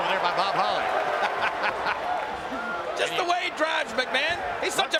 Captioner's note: laughing